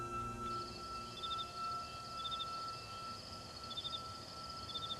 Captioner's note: crickets chirping